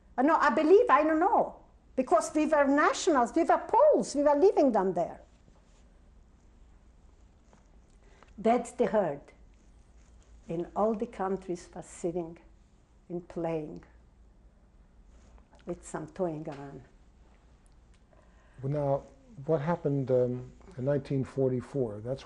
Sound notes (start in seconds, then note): 5.7 pauses for 3 seconds